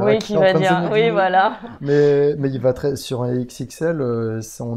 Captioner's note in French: rire; rire